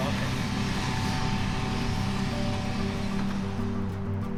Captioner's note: machinery humming; soft expectant music continues